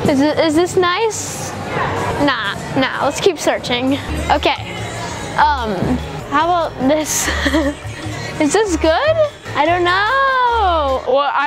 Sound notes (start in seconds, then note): 6.8 laughs